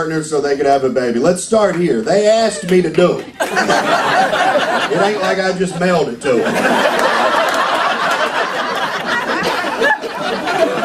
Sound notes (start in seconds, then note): 3.2 laughter